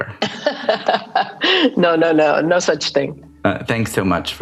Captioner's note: laughing